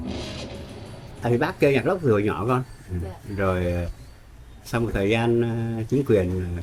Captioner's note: speaking foreign language